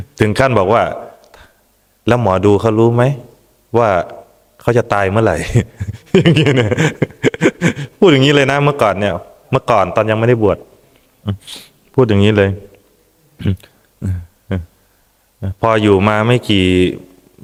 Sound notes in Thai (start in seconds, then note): 5.6 เสียงหัวเราะ; 11.4 เสียงสูดหายใจ